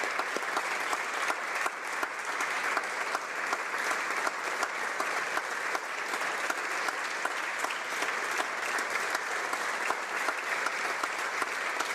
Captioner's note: applause